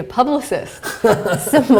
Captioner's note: laughter